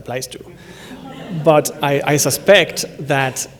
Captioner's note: laughter